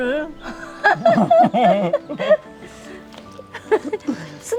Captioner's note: both laughing